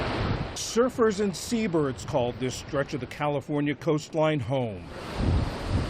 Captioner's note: voice-over